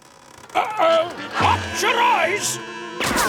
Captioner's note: creaking